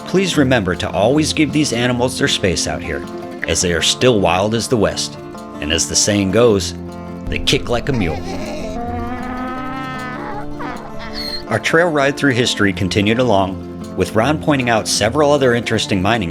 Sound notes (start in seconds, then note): 8.2 donkey bray